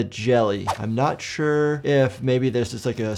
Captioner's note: mouse clicking; air whooshing